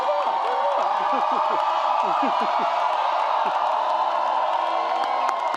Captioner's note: laughing